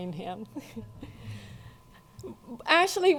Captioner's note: laughing